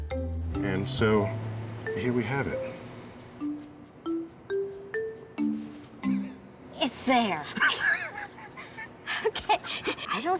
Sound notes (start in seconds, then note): 7.5 laughing